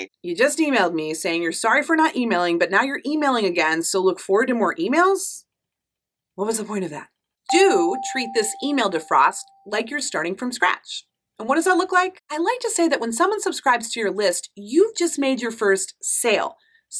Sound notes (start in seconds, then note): 7.5 affirmative dinging